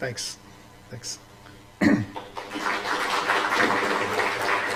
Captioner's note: applause